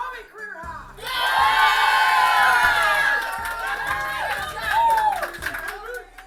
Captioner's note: cheering